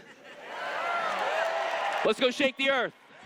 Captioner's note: cheers